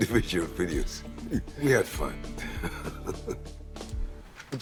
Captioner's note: chuckles